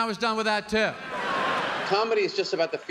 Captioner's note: laughter